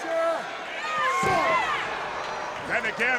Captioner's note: spectators cheering